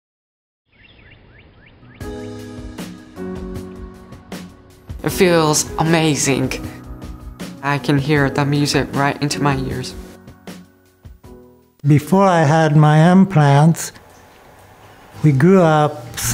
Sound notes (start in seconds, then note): 1.0 birds chirping; 2.8 upbeat music